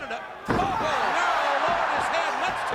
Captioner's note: crowd cheering